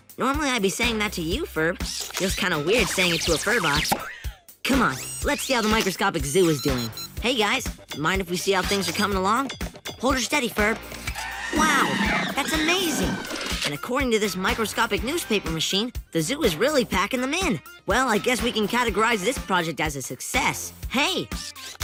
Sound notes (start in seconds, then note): 11.0 animals calling